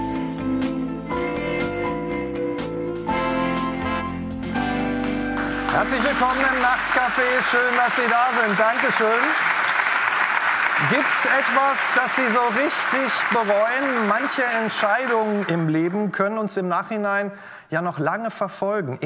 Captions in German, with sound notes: (Ruhige Musik) Herzlich willkommen im "Nachtcafé". Schön, dass Sie da sind. Danke schön. (Applaus) Gibt es etwas, das Sie so richtig bereuen? Manche Entscheidungen im Leben können uns im Nachhinein ja noch lange verfolgen.